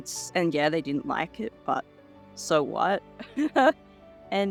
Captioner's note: laughs